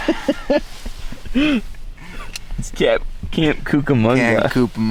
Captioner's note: laughing